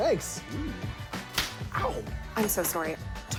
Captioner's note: thwack!